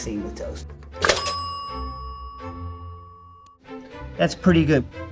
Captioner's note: bell pings